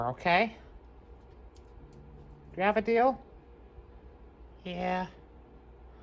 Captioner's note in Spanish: gruñendo